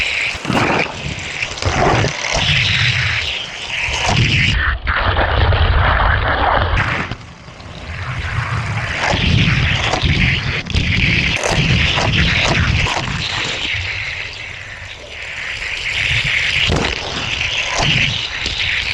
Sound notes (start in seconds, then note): 4.6 car zooms down waterslide